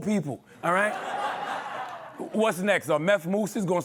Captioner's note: laughter